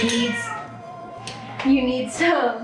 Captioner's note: cat meowing